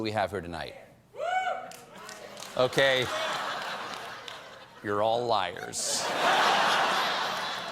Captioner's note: light applause